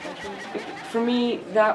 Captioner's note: participants chattering